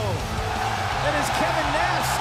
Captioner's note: crowd cheering